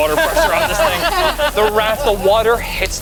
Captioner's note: group laughs